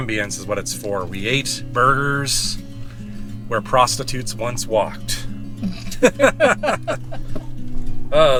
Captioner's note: laughter